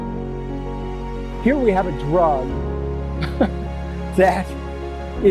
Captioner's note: laughs